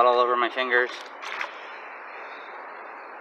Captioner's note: splashing